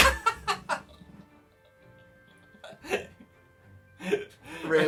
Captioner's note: Phil laughs; giggle giggle